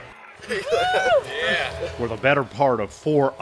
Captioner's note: cheering